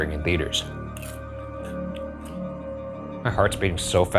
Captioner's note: popcorn crunching